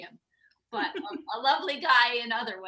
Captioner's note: laughs